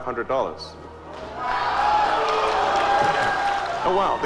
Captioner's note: audience cheering